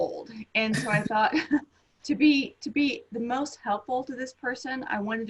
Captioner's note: laughs